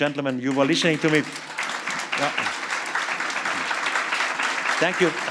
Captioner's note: applause